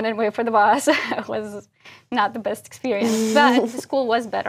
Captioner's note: laugh